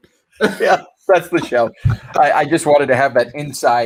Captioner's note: laughing amusingly